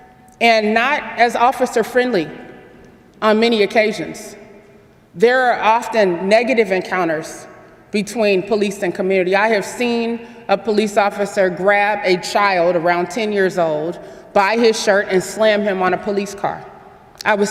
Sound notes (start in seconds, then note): none